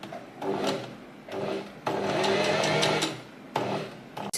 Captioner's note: sewing machine surges